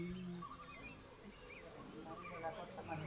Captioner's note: indistinct chatter